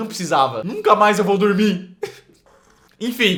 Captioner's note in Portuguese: ha